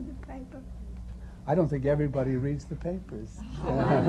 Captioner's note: laughter